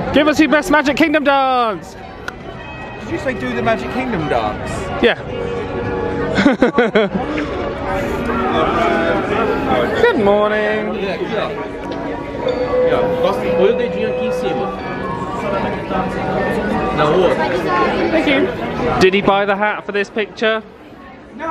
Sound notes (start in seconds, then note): 6.3 chuckling